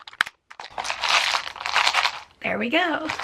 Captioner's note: containers being snapped closed; pills rattling